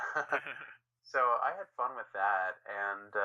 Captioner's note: laughing